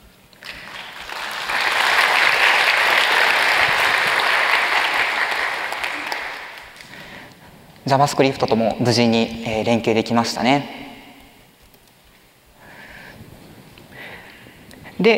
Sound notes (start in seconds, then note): 0.4 applause